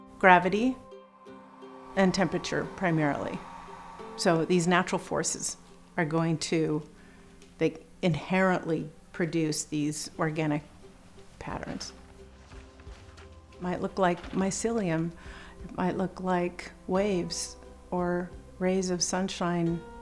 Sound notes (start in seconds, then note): 1.4 hair dryer blows